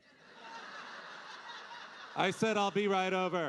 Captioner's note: audience laughing